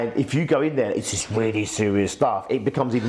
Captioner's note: serious tone